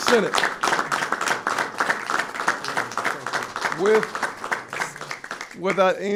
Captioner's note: applause